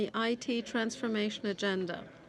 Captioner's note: speaking French